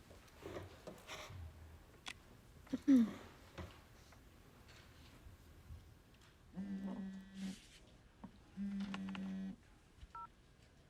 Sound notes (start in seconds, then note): 2.0 phone vibrating; 2.7 clears throat